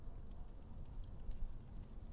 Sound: fire crackling

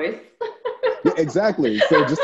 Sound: laughs

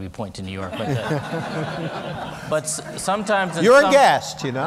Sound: laughter

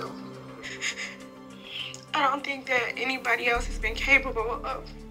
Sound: voice breaking

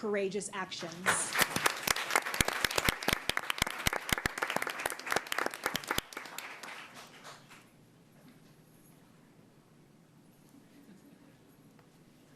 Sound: applause

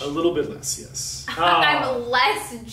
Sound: laughing

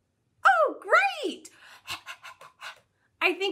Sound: panting noise

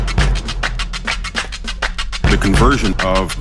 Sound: authoritative man talking

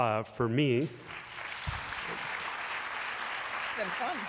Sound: applause

